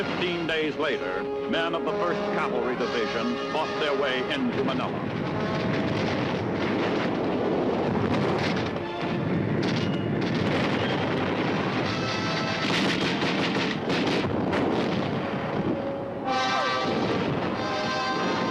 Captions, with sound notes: 15 days later, men of the 1st Cavalry Division fought their way into Manila. (flame raging) (guns firing)